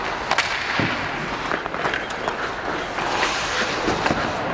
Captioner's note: hockey puck clanking